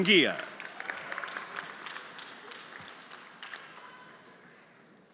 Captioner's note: everyone applauding